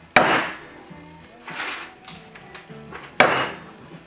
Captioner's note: hammer thudding loudly